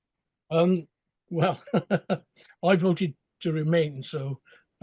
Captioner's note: laughing